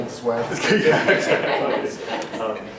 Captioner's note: laughter